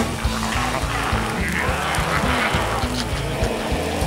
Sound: zombies groaning

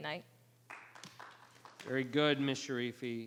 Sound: audience clapping

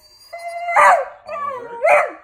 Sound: Oliver barks

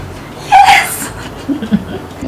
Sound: laughing

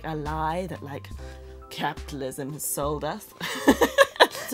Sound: laughs

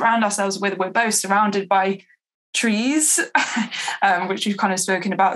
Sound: laughs

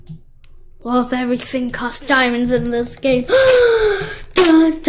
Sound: gasp

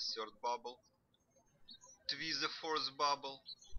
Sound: birds chirping

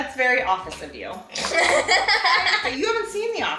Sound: giggles

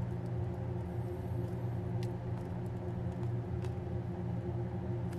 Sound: fan sound

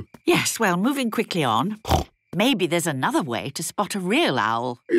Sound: snorting

